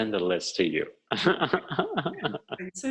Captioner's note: laughing